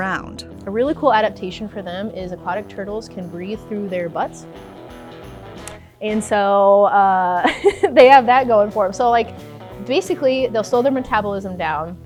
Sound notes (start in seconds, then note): 7.4 laughs